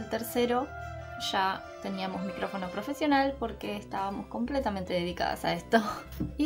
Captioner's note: in spanish